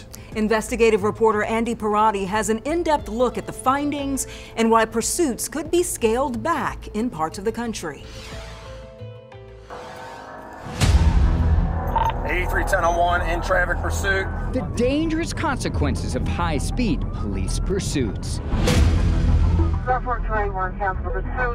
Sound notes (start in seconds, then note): 8.2 soft music; 9.8 engine roaring